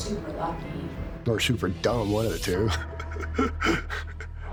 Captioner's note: laughing